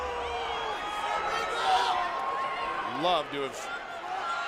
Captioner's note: crowd chatter